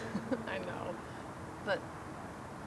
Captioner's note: laughs